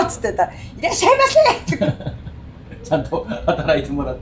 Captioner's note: laughs